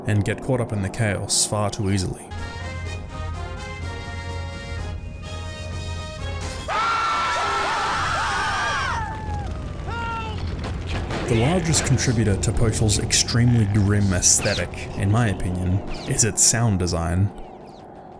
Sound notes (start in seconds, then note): 6.7 fire and screaming; 9.0 gunshots